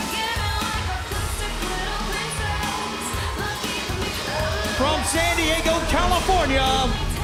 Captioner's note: crowd cheering